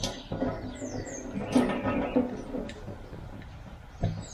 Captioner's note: birds chirping